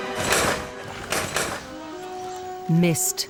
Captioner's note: gun firing